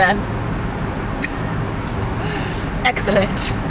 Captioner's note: speaker laughs